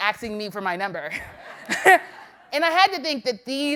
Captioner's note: laughter